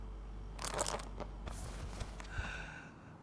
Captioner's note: rubber squeaking